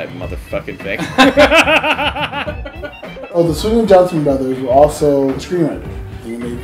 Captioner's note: laughter